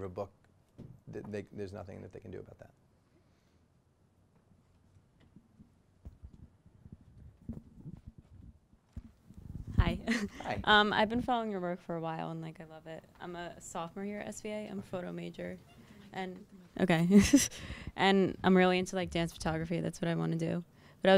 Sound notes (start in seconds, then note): 9.8 voiceover